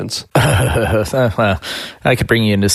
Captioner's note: laughing